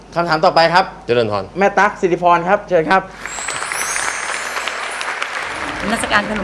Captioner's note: clapping